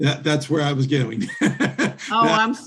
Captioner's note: laughing